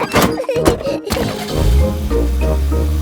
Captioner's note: laughing; car engine starts